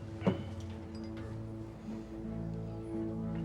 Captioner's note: none